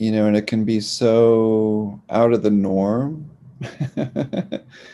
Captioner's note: laughs